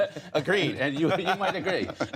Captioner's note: laughter